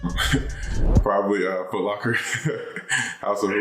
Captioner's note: laughing